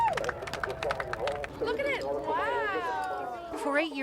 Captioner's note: clapping, cheering